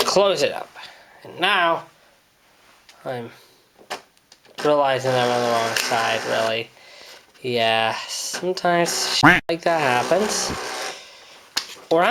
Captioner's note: quack